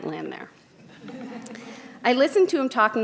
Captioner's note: audience laughs